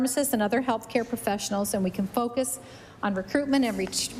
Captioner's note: none